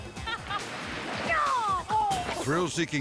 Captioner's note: tubers laughing; tuber yelling